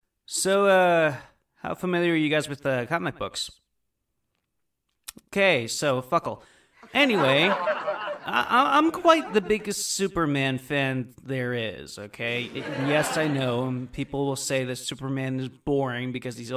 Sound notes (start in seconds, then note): 6.8 audience laughter; 12.4 audience chuckle